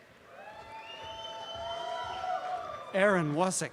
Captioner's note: audience cheering